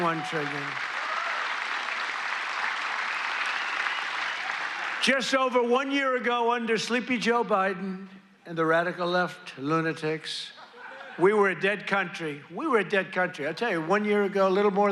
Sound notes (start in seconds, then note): 6.4 applause